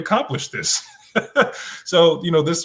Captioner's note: laughs